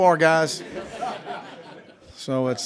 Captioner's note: laughing